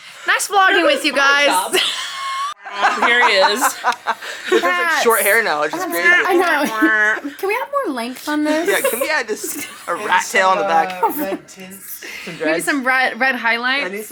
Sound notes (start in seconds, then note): 0.8 laughing